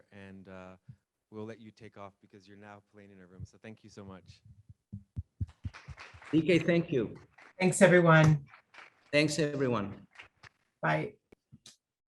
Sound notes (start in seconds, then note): 5.4 audience applauding